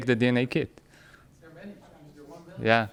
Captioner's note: man speaking off microphone